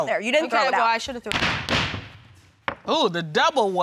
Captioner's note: thudding